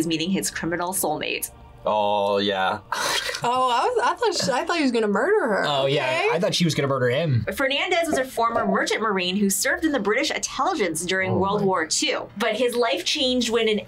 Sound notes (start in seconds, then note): 3.0 laughs